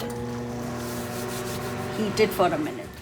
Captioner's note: microwave cooking